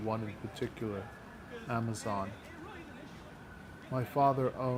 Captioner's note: people chattering